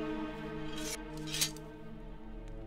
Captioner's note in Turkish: Hançer çekme sesi